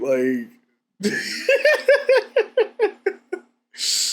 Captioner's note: laughs